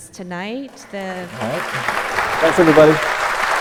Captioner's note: applause